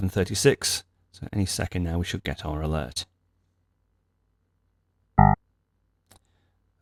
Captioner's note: alert sound